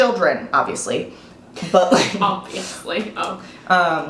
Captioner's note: laughs